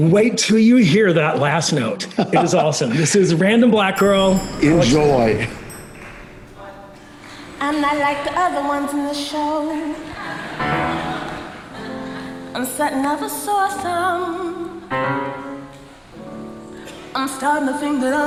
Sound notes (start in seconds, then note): 3.1 laughs